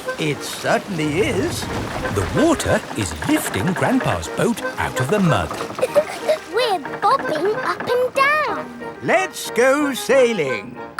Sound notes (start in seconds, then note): 4.6 chuckles